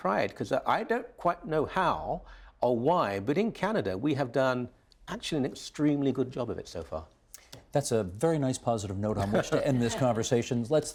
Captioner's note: mixed voices